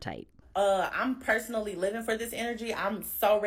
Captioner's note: soundbite of archived recording